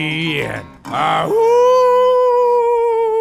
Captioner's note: howling